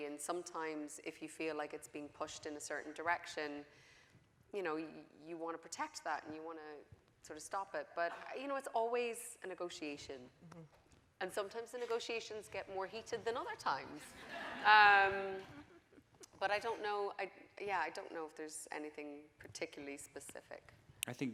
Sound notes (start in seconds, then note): 14.1 audience laughing